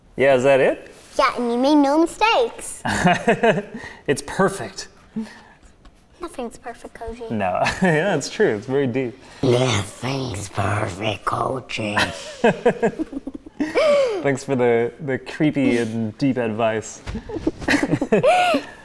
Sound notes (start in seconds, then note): 11.9 giggles